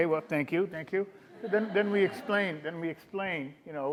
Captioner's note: audience laughing